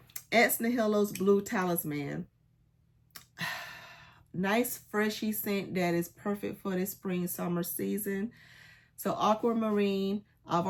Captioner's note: sighs and gasps